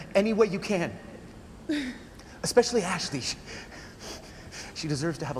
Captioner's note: panting